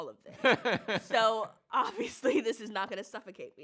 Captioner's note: laughs